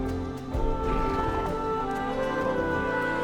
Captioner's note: creature rumbles